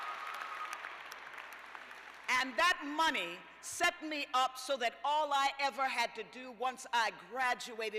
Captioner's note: cheers and applause